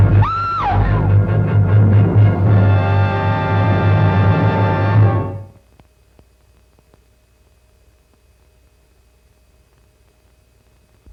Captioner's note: scream